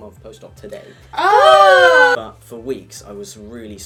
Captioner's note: excited noises